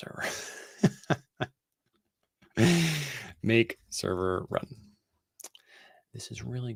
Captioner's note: laughing